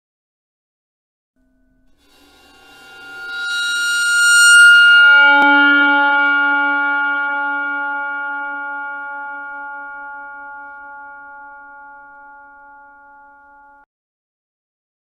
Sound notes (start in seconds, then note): 0.0 horror screech